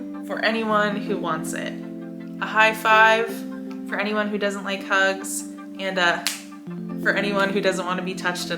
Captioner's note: snaps